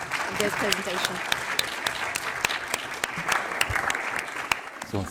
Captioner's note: audience clapping